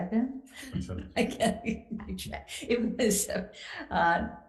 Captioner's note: laughs